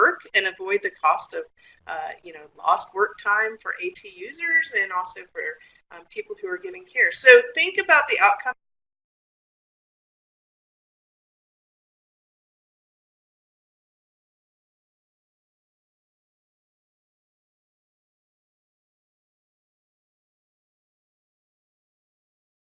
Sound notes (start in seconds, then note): 8.9 silence